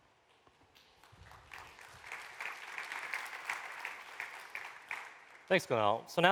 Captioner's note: applause